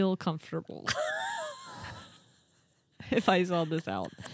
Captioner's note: wheezing